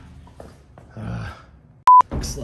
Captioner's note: exasperated groan